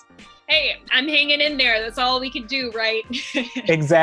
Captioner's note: laughs